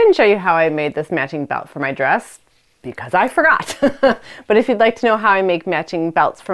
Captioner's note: laughs